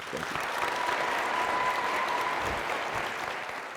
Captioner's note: applause